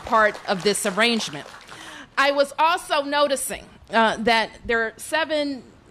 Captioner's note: applause